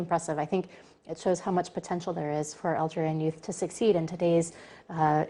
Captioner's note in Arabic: تتحدث الإنجليزية